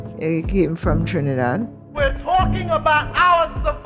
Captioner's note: soundbite of archived recording